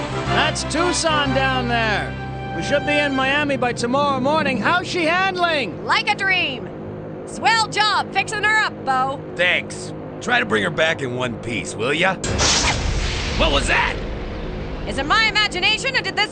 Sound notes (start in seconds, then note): 12.3 crashing